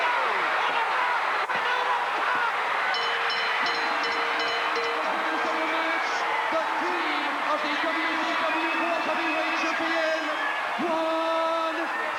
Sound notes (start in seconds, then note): 0.2 people chattering indistinctly; 2.9 bell dinging; 4.5 announcer speaking faintly off mic